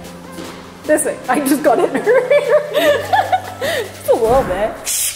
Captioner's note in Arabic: أمي تضحك